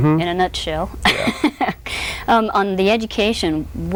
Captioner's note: laughs